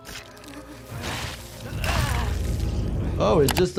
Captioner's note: Phase Two groaning